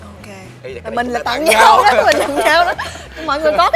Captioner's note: laugh